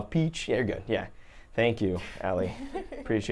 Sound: laughs

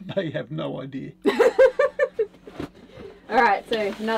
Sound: chuckles

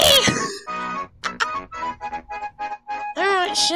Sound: obnoxious laughing

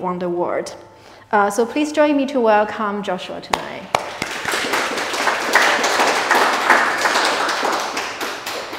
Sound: applause

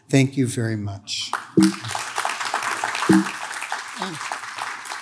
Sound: audience claps

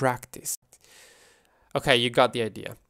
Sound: deep breathing

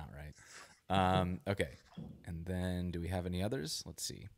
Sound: laughs

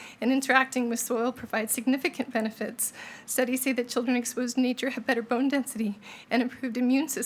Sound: none

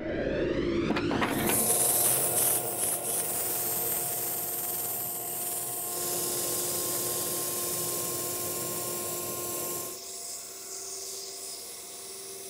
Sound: machine buzzing

